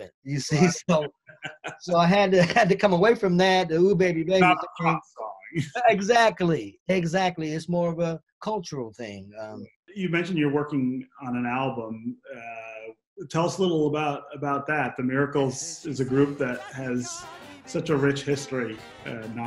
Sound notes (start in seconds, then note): 0.5 both laugh; 0.5 laughs; 4.4 both laugh